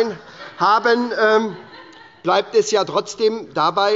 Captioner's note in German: Heiterkeit bei der SPD – Unruhe – Glockenzeichen des Präsidenten